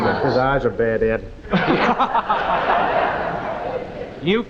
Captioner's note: audience laughing